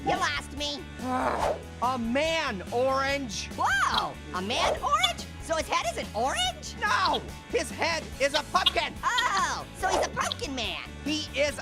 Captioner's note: Orange laughs